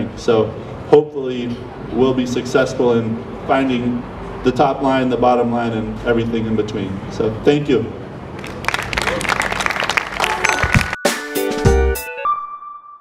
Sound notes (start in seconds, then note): 8.3 crowd applauding; 10.2 upbeat music